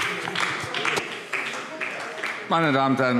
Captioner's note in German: Beifall AfD